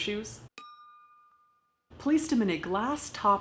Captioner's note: bell chimes